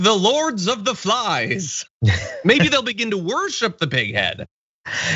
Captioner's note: laugh